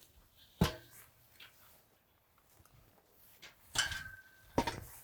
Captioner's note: sawdust shuffles; barrel clinking